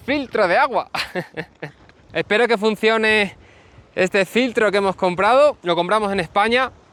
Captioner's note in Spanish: risas